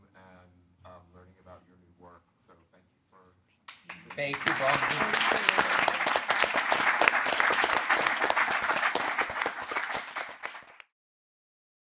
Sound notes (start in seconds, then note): 7.9 audience applauding